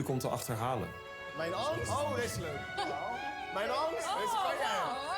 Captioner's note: laughter